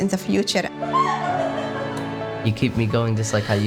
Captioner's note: laughing